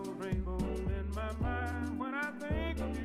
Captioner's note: beat boxing